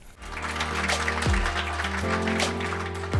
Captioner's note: applause